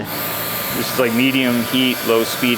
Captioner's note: hair dryer buzzes